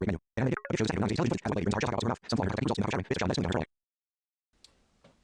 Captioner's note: extremely fast speaking